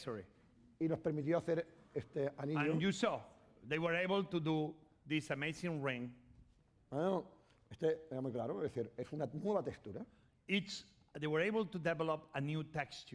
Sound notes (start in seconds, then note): 1.7 speaking spanish; 7.8 speaking spanish